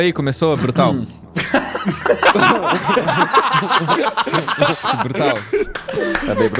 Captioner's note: everyone laughs